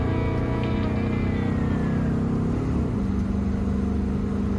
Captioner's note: car engine revving